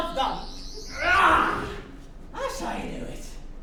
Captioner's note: vent opening screech